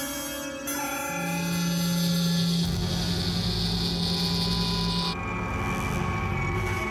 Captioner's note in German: Transportersummen